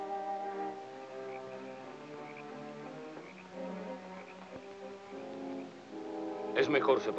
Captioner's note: insects chirping; frogs croaking